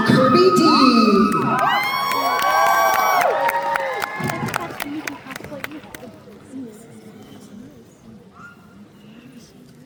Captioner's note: audience Cheers